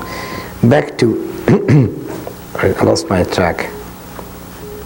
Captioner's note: coughs